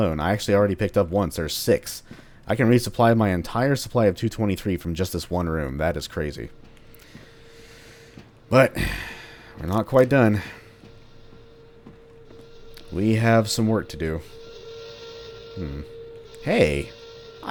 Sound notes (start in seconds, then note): none